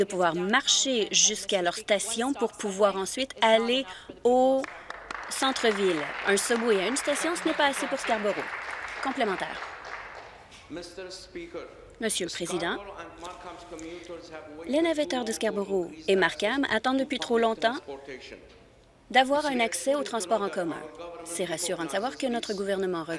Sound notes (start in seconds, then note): 9.2 applause